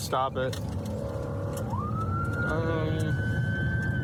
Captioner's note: siren blaring